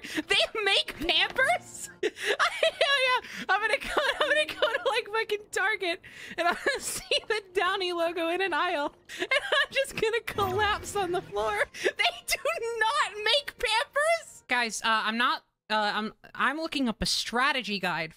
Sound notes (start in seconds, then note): 1.9 stammering